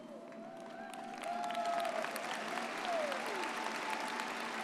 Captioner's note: audience cheers